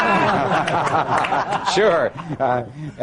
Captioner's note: laughter